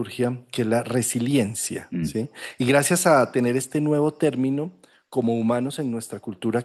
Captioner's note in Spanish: carraspeo